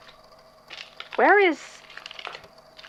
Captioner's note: clumsy movement, glass crunching underfoot; footsteps